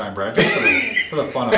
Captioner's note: laughs